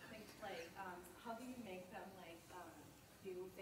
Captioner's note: voiceover